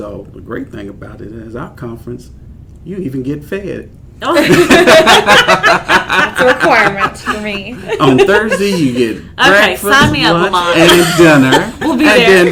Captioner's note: laugher